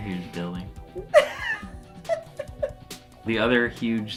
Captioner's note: laughing